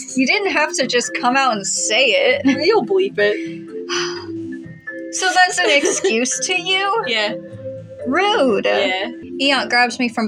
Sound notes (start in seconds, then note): 3.8 sigh; 5.2 laugh